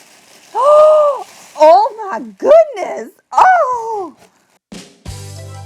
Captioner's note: gasps; upbeat music